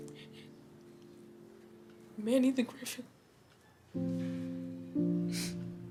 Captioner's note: sobbing